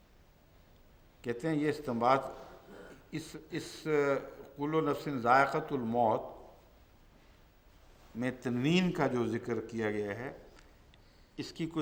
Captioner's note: Arabic